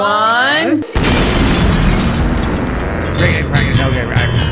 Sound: explosion

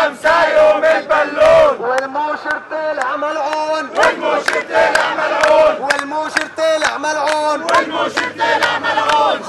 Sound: chants; chants

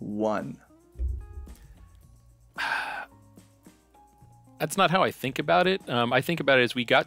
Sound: sigh

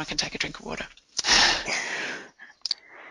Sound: chuckles

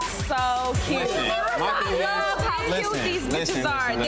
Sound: women shouting

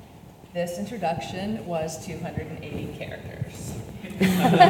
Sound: audience laughs; laughs

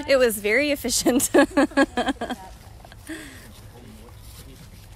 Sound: laughter

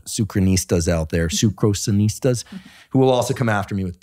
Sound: laughing

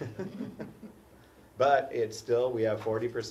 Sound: laugh

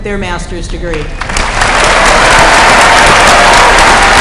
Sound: applause

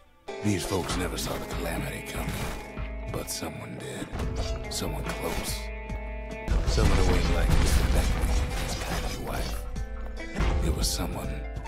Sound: in-game audio

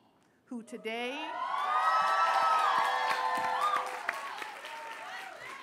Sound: cheers, applause

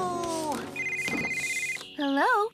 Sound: cell Phone Ringing

